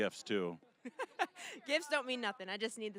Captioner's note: laughing